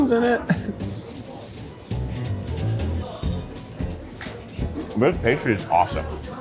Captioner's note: people chattering; chuckles; gentle upbeat music